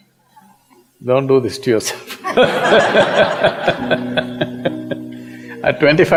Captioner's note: laughter